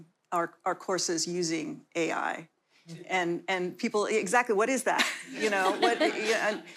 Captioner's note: laughter